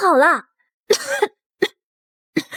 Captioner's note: cough cough